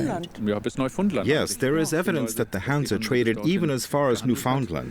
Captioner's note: in German